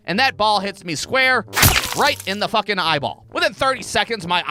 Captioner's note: whizz!